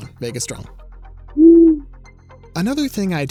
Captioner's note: owl hoots